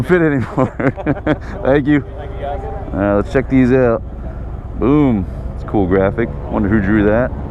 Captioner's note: laughing